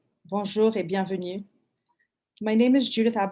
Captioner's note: speaking in foreign language